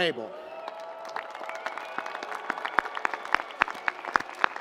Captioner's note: audience applauds